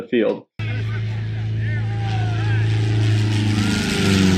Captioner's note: plane buzzing